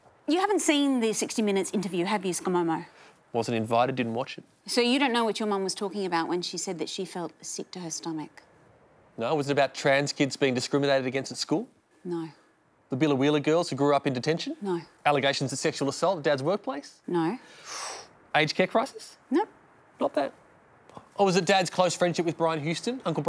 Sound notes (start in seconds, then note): 17.4 sucks in breath